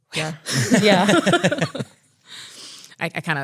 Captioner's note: laughs